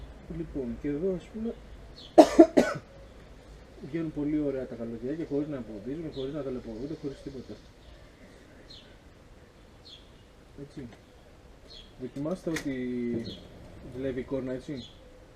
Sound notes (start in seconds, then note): 2.1 coughing